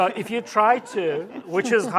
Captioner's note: laughter